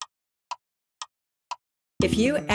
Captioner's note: clock Ticking